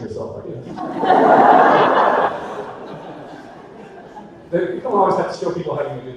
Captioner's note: audience laughter